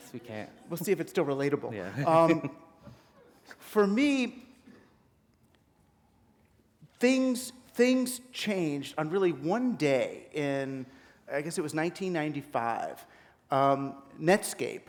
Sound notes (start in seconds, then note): 2.0 chuckle